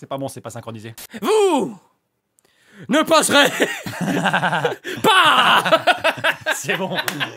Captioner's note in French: rires